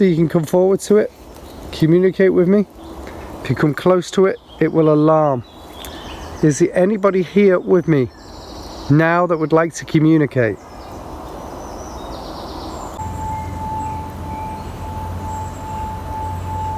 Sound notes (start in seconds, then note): 10.9 birds chirping; 13.0 bowl chiming